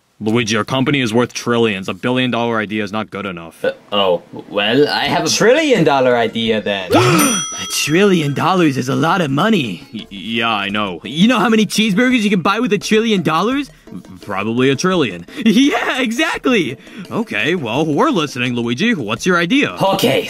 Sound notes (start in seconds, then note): 6.9 gasps